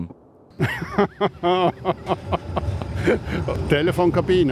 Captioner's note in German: lacht